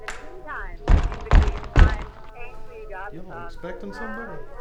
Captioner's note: person knocking at door